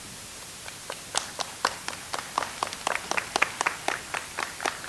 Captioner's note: audience applauds